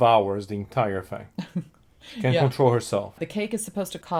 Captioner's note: laughs